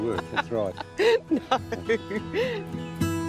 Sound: laughs

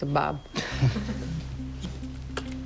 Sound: laughter

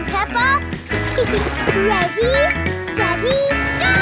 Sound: giggles

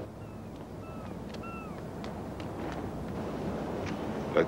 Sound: birds shrieking

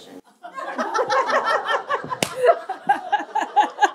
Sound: laughter

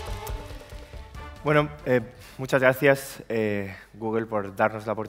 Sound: speaking spanish

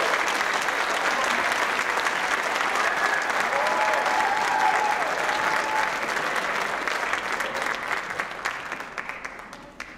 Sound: applause, cheering; applause

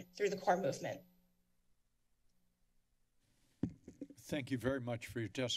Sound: silence

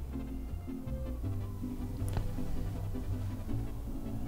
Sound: none

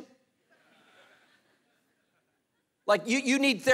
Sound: congregation laughing

